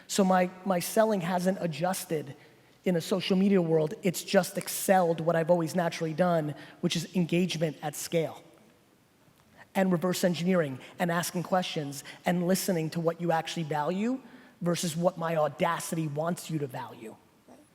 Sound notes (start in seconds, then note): none